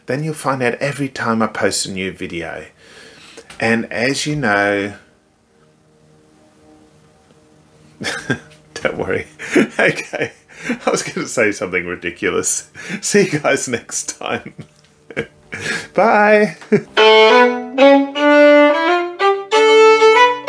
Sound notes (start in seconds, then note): 5.5 tone thrumming; 8.0 chuckling; 14.0 chuckling